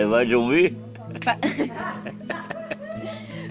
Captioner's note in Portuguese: risos